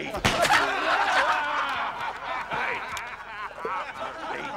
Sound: laughter

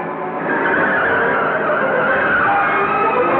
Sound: tires Screeching

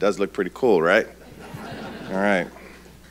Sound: audience laughing

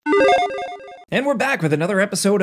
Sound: electronic chime

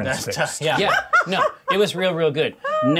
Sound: co-host laughing

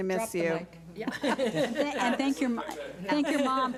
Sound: board laughs

